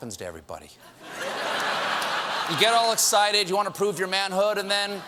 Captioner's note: laughter